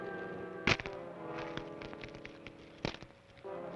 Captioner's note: manacles clack